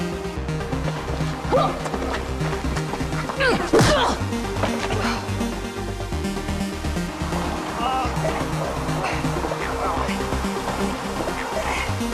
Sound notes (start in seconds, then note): 1.4 Riley grunting; 1.7 fist thudding